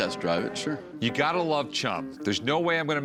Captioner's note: none